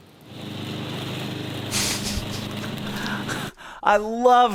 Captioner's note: engine rustling